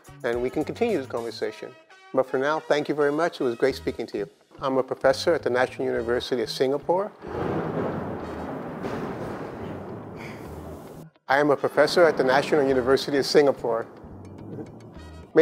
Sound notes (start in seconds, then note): 7.1 thunder Rumbles; 13.6 thunder Rumbles